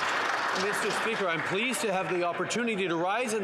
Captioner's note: some Applause